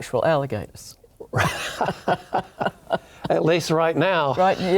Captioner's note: both laugh